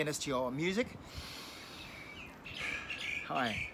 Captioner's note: deep breaths